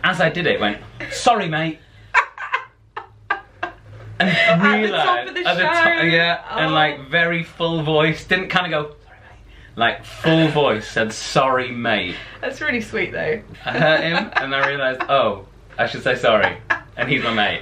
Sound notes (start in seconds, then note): 2.1 laughter; 8.6 whispers; 9.6 normal voice